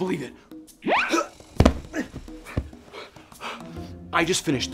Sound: grunts

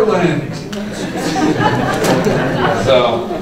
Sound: laughter

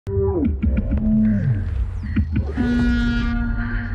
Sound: electronic noises

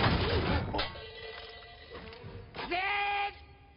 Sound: metal clanging

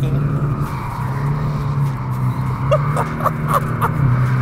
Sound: tires screeching; laughing

